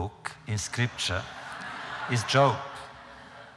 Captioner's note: laughter